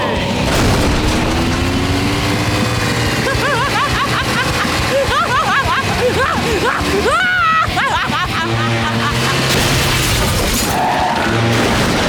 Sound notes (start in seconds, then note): 3.1 laughing